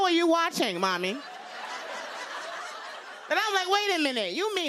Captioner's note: laughter